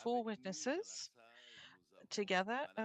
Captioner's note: speaking French